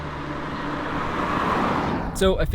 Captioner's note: car passing